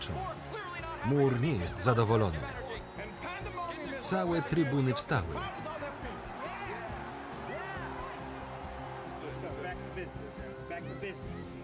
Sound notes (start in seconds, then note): 6.2 audience cheering